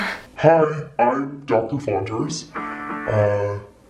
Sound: distorted Voice

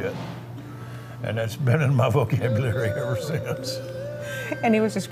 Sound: laughs

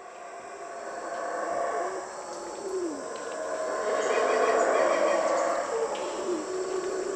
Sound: monkey roar

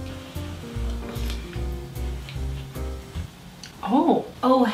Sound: slurps

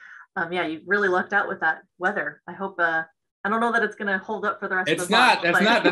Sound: laughs

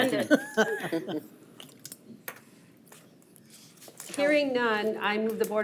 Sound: board members laugh

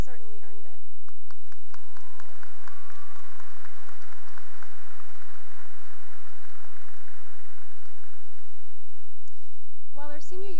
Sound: cheering and applause

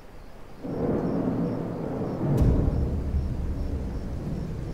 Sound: thunder rumbling

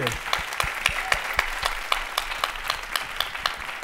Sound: applause

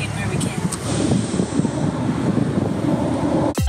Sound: wind blowing

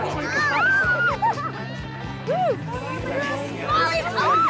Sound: girls screaming

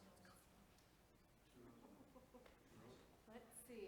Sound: board members chattering and laughing softly

